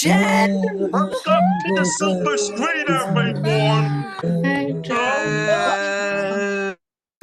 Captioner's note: cheering